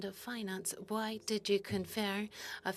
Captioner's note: speaking French